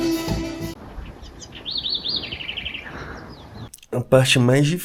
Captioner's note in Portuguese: Pássaros Cantando